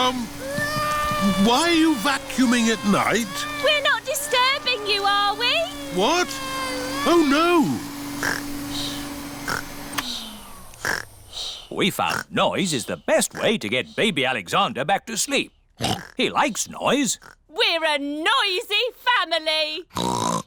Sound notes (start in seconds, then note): 8.2 snores; 9.7 whirring stops; 15.8 oinks